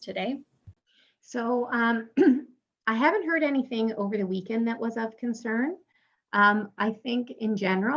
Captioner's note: clears throat